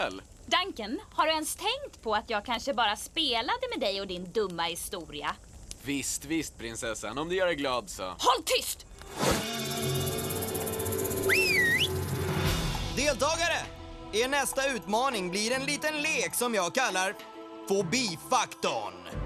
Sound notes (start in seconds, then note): 9.2 whistle